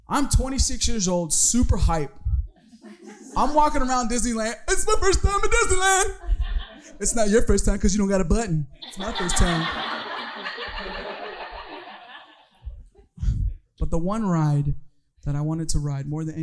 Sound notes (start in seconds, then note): 10.9 audience laughing